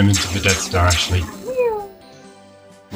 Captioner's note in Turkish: blaster sesleri; X-Wing Fighter gürültüsü